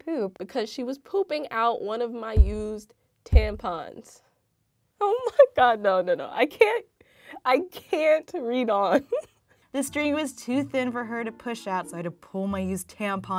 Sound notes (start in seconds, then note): 8.8 laughter